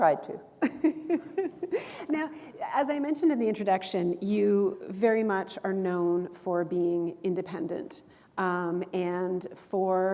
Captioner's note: chuckle